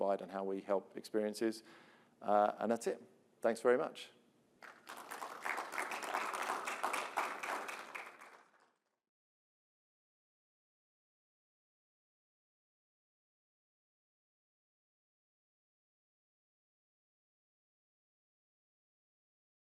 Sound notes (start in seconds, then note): 4.6 applause